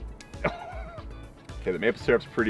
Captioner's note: laughs